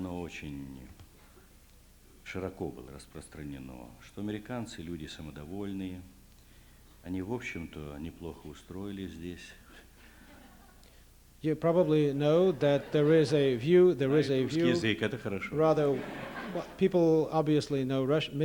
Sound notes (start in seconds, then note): 10.0 laughter; 15.2 non-english speech